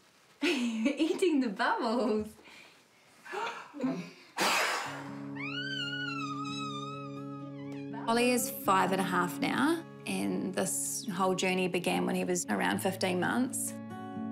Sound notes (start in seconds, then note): 0.4 chuckles; 4.2 breathes deeply, blows; 5.1 squeals happily; 14.1 gentle guitar music